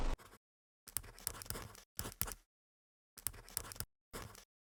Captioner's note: pen scratching